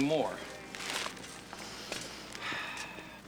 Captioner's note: sighs